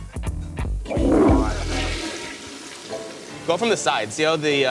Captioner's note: toilet flushes